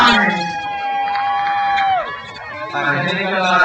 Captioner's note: crowd cheers